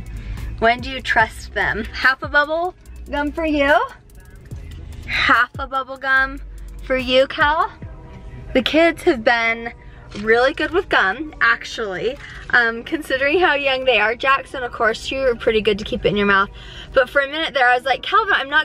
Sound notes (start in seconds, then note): none